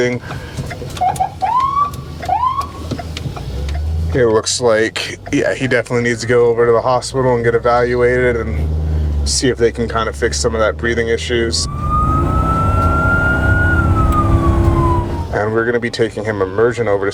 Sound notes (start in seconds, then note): 0.3 siren sounding; 11.6 siren wailing